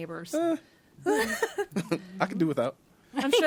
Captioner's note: others laughing